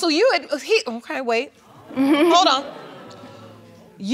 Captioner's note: audience exclaiming